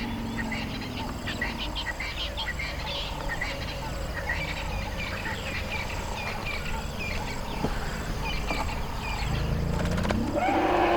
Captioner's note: elephant and Baboon sounds